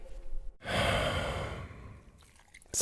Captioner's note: sigh